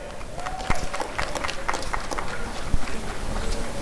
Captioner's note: applause and cheering